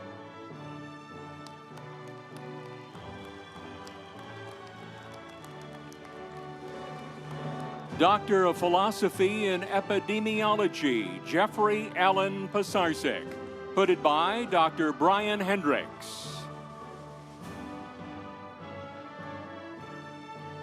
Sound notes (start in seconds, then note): 0.1 instrumental music; 1.2 audience applauding; 17.3 instrumental music